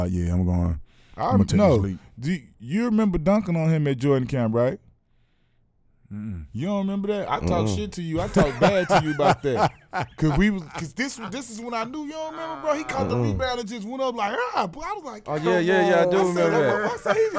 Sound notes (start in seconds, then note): 8.2 laughing; 14.5 screams